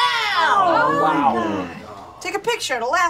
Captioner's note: coworkers murmur